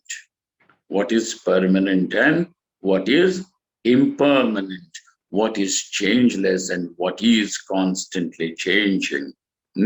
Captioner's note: sanskrit